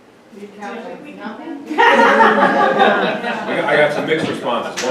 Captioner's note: audience laughs